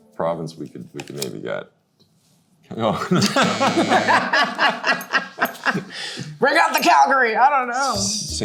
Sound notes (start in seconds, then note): 3.0 both laughing; 3.0 buzzer buzzing